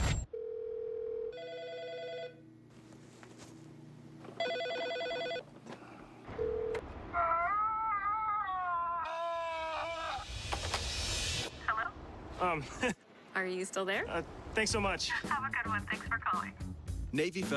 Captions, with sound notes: (phone ringing) (yelling) - Hello? - Uhm... - are you still there? - Thanks so much. - Have a good one. Thanks for calling